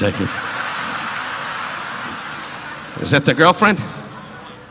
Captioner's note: audience laughing